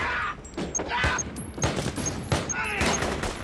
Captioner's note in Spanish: Disparos; Quejidos